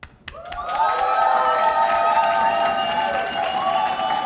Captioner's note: audience applauding